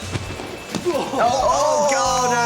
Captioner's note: grint grunts